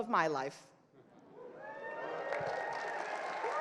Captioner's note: crowd cheers; crowd applauds